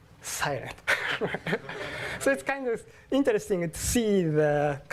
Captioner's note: laugh